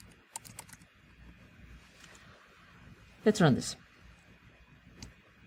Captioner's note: pause